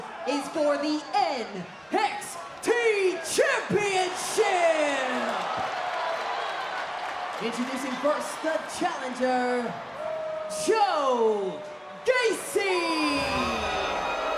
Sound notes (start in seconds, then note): 5.4 crowd cheers